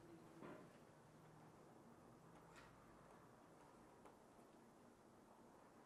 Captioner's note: speaks softly to herself